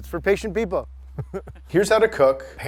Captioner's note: laughs